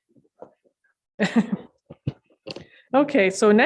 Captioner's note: laughs